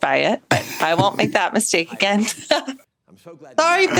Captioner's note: laughs